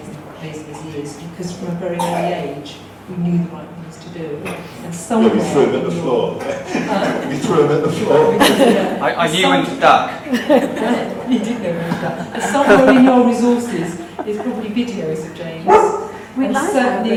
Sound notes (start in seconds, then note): 7.9 laughter; 10.6 laughter